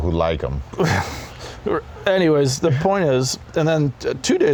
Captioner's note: chuckles